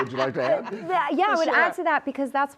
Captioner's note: laughter